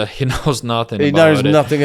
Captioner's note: laughs